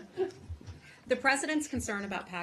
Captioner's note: laughter